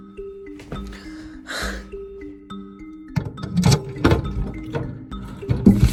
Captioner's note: suspenseful music; breathes heavily